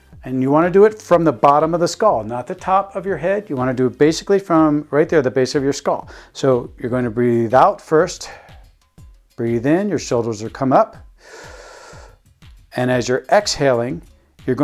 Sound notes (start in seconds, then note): 11.0 inhaling